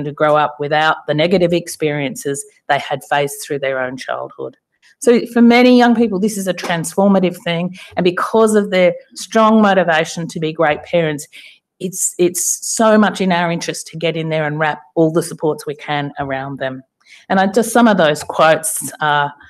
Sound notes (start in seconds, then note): none